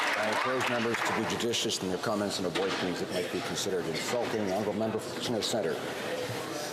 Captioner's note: applause